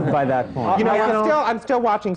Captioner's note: laughter